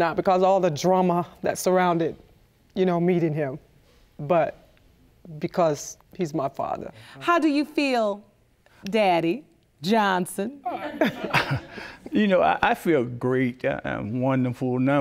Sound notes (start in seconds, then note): 10.7 chuckling; 10.9 audience chuckling